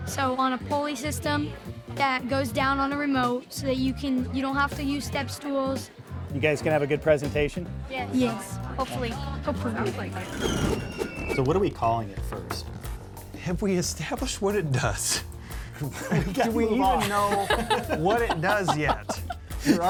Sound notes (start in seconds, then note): 9.8 wheel screeches; 10.0 wind whooshes